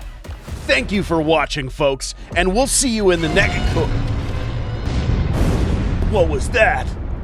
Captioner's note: explosion